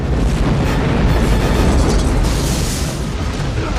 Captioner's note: explosion